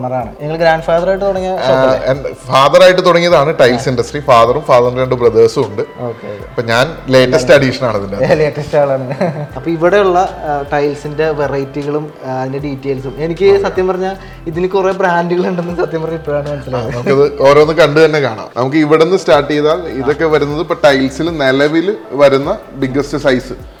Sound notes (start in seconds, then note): 8.8 laughing